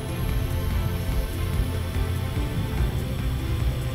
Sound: air Hissing

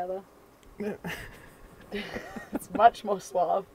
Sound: laughing

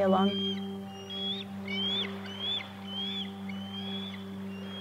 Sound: eagle screeching

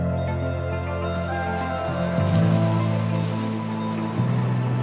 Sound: waves lapping; waves lapping, birds chirping

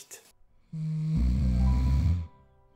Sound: heavy snoring

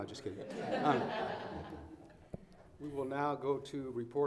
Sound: all laughing

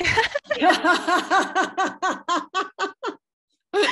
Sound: laughter

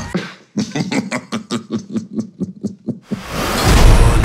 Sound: chuckles

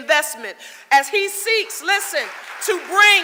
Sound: audience applauding

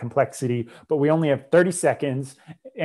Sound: breath

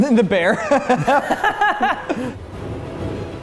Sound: laughing

